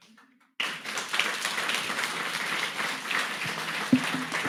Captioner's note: audience clapping